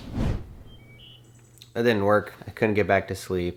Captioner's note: air whooshes; birds chirping